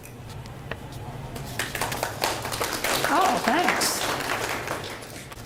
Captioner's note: audience applauds